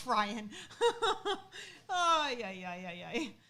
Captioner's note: laughing